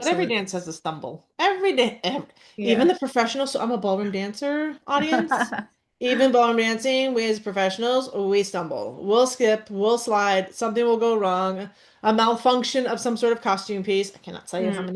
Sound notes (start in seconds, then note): 5.0 laughs